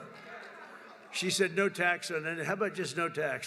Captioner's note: laughs